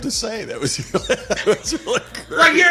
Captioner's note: laughing